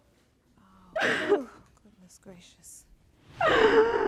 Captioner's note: sobbing; sobbing